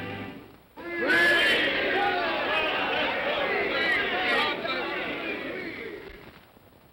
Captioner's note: indistinct cheer